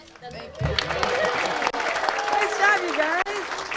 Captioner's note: audience cheers and applauds